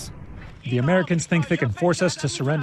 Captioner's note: through translator